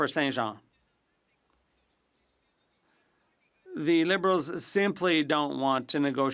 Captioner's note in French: voix de l'interprète